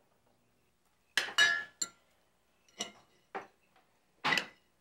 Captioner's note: cutlery rattling